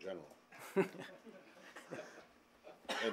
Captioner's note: laughter